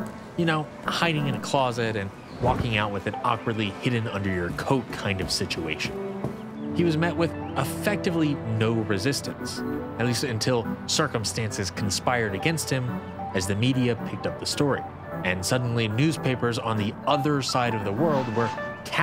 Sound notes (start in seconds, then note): 2.3 whoosh; 6.2 shuffling on hard wood floor